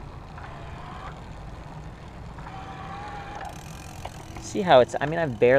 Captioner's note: soft motor sounds